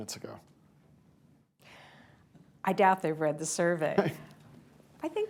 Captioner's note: laughter